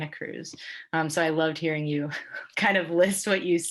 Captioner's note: laughing